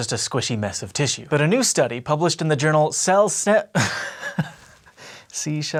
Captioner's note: laughs